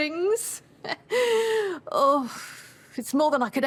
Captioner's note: she chuckles, sighs